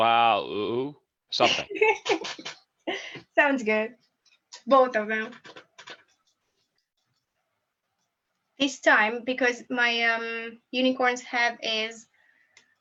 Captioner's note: chuckles